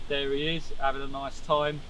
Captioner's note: none